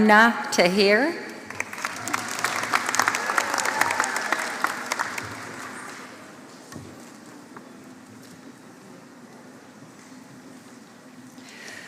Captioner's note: applause